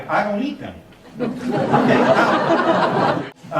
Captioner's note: laughing